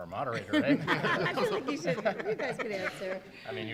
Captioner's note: laughter